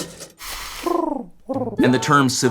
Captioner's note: dove cooing sound